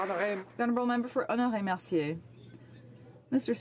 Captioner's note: some Applause